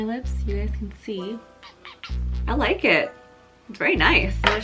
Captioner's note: kissy noises